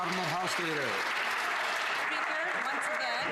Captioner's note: some Applause